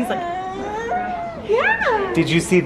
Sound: coos

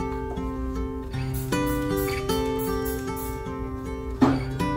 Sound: spray bottle spraying

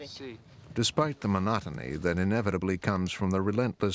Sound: voiceover

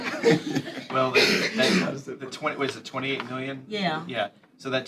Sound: laughter

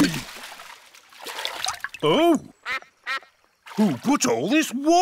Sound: quacks

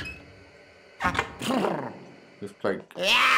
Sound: Luigi sneezed

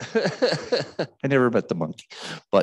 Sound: man laughing

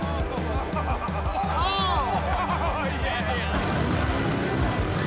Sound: crowd exclaims; energizing country music

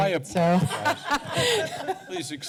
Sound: laughter

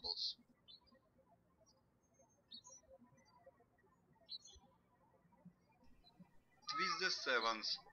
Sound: birds chirping

